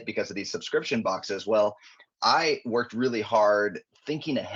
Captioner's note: none